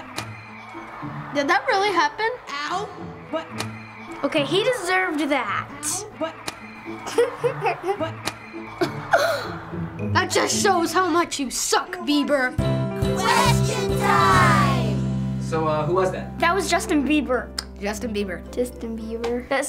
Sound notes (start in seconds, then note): 0.2 bottle smacks Bieber's face; 5.9 smack; 6.9 laughing; 8.2 smack; 8.8 gasp, laughing